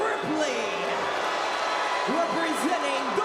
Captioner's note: crowd cheering and booing